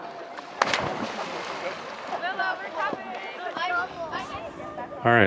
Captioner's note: spash